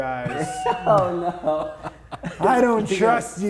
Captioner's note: laughs